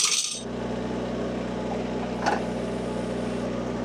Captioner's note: engine rumbling